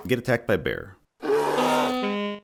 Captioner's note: bear roars